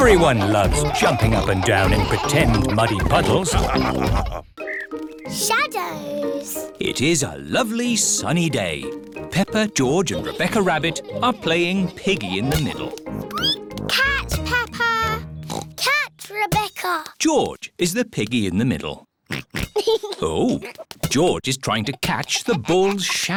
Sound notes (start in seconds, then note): 12.4 squeaks; 15.4 oinks